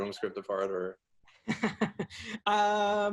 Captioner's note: laughs